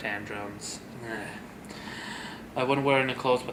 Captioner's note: loud sigh